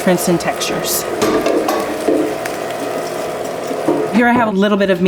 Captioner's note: grinder humming